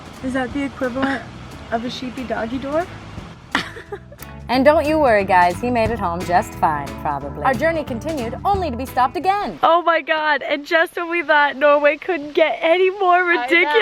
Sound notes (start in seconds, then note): 3.5 laughs